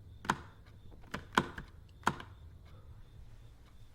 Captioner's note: clicking